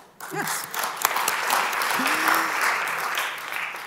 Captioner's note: applause